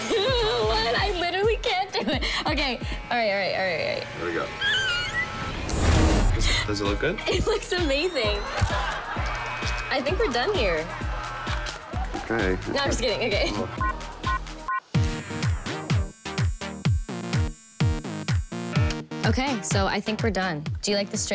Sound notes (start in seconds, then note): 4.4 squeals; 8.0 canned laughter